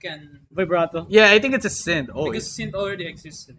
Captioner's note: synthesizer; pulsing pitch